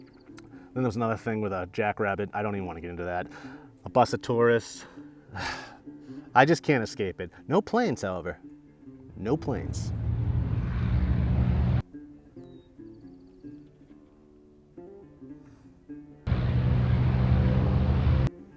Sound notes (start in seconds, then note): 9.2 engine roaring; 16.2 engine roaring